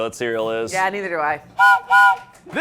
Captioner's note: whistle blows